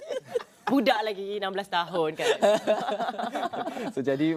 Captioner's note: laugh